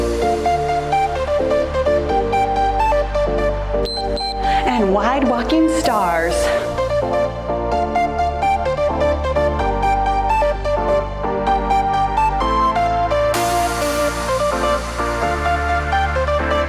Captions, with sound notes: (timer beeps) And wide walking stars. (cheerful music)